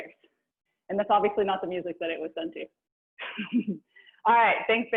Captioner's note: laughter